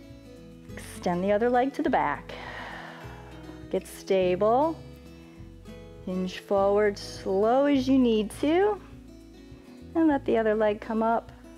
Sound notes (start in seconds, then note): 2.2 exhales